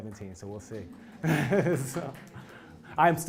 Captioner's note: laugh